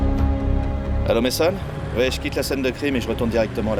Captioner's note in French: au téléphone